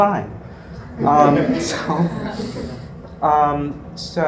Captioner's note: laugh